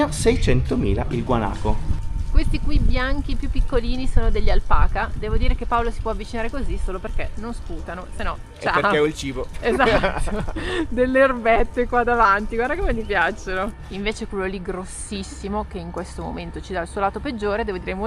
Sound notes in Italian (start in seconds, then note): 9.6 risate